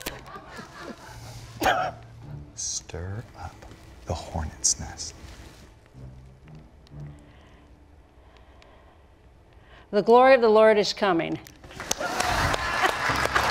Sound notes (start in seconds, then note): 11.7 applause